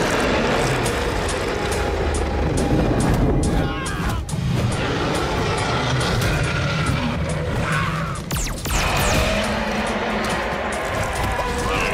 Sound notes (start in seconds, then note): 0.2 roaring; 3.4 screaming; 7.4 screaming; 9.0 loud roar